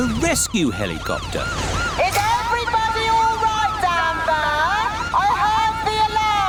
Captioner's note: over megaphone